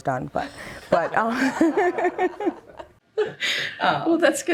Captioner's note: laughter